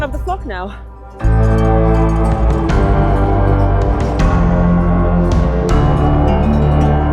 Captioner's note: gentle majestic music; sheep bells clanging